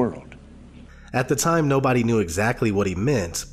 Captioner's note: voiceover